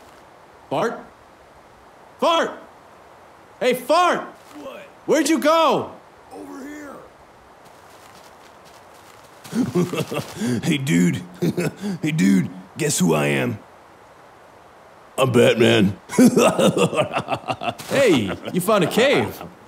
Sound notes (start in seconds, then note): 9.5 giggling incessantly; 12.0 laughs; 15.2 laughs